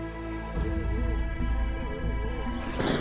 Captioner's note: animals calling